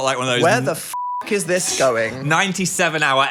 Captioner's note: beep